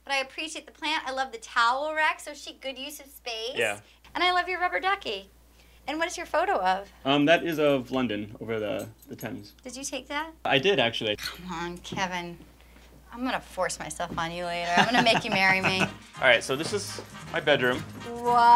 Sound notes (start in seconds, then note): 14.6 laughter